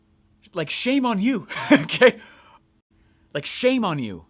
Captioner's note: laughs